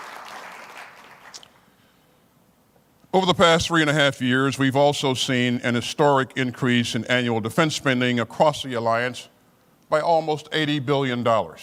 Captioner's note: applause